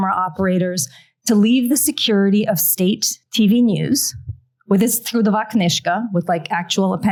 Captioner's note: non-english